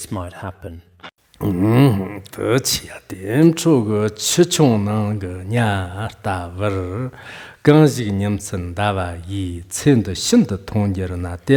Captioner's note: giving oral transmission in Tibetan